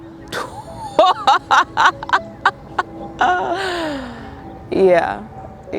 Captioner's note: participant laughing